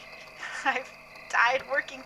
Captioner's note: anxious laughter